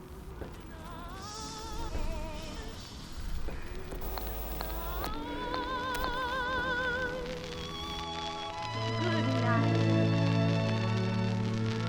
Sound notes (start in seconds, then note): 1.5 paranormal sounds 👻; 8.6 vintage music